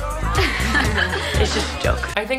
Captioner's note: girls giggling